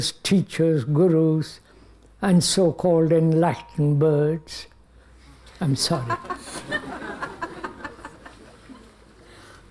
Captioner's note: laughter